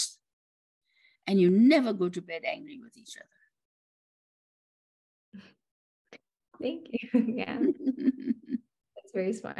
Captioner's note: laughs